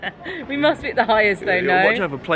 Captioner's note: both laughing